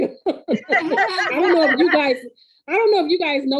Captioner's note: laughing